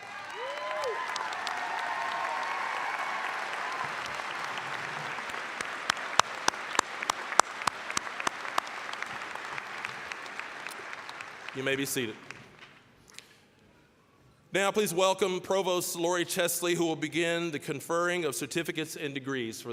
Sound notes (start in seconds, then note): 0.2 applause, cheering; 5.8 applause